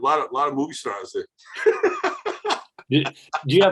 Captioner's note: laughing